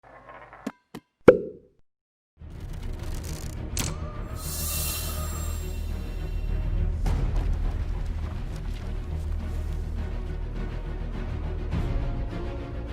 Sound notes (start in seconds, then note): 1.2 bottle popping; 2.8 dramatic music